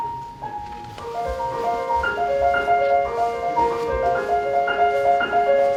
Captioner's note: none